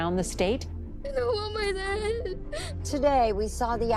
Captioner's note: crying